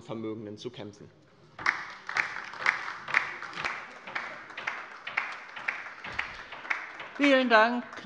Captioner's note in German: Beifall bei der LINKEN